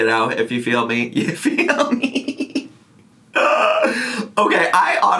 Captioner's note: laughs